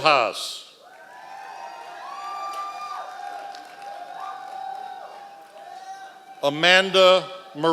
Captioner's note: members of the audience cheering